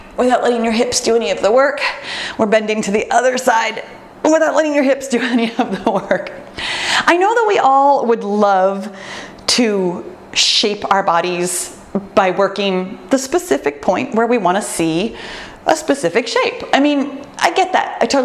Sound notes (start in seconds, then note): 6.5 laughs